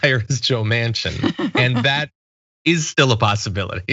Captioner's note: laugh